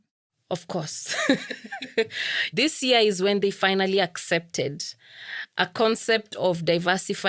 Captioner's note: laugh